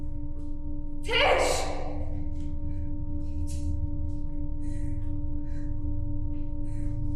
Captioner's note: breathing heavily